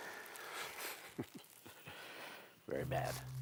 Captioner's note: chuckling